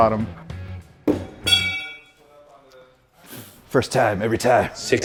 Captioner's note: knife thudding